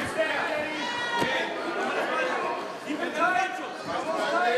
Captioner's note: crowd cheering